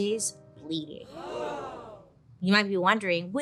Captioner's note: audience gasping